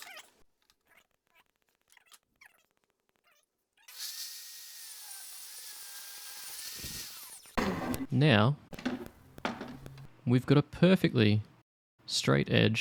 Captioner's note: saw running